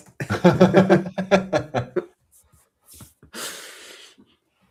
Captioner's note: laughter